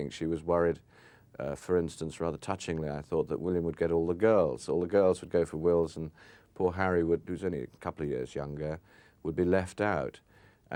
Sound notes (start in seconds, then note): none